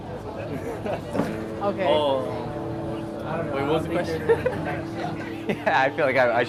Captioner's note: laughing